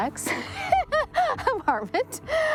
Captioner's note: laughing